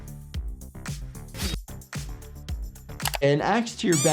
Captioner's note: ax swooshing